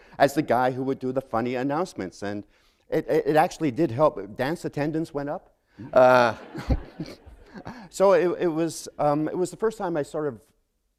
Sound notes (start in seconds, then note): 5.8 laughter